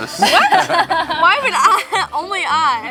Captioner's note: laughing